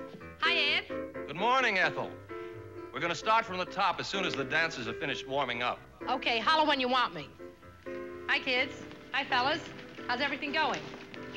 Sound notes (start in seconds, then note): none